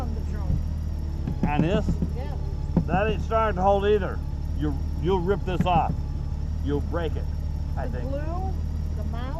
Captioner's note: taps trunk